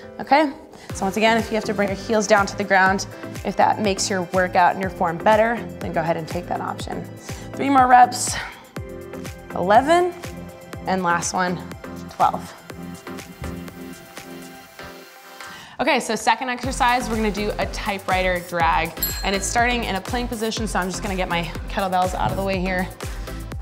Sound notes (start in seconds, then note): 12.7 upbeat music; 19.0 ding